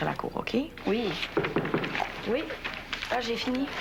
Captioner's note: On cogne à la porte